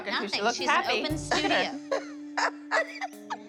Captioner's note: laughing